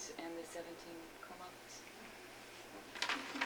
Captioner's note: non-english speech